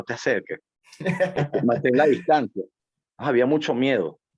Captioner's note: laugh